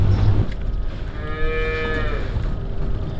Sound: calves crying

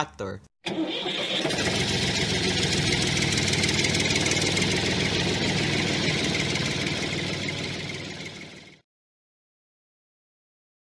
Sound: tractor hums

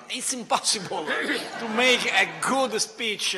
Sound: laughter

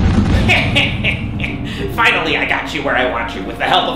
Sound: chuckles evilly

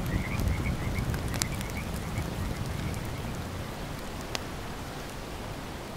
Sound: fire crackling

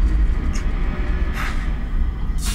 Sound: breath

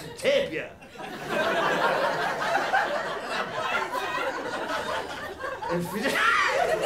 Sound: laughter

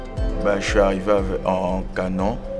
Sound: non-english speech

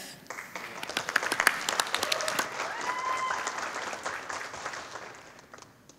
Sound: audience applauding

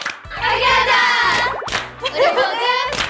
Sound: clap

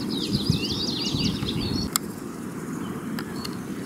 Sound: birds singing

